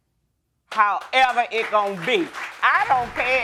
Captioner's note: audience applauds